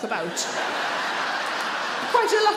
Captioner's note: audience laughs